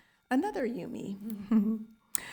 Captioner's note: laughing